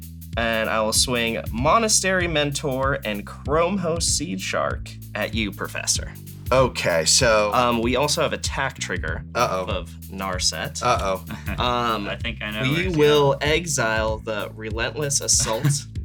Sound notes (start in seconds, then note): 10.8 laughs